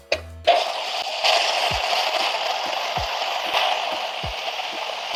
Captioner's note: pressure releasing